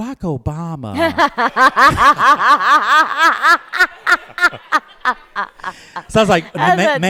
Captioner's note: laughter